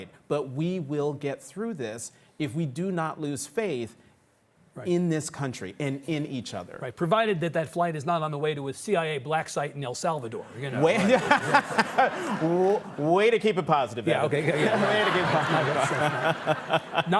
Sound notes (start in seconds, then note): 10.9 audience laughing